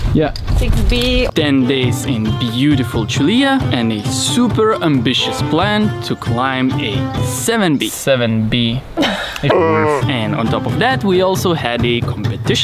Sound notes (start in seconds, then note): 9.0 laughing